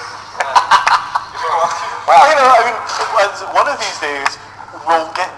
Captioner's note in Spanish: risas